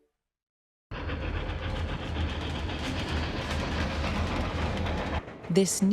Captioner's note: train rumbling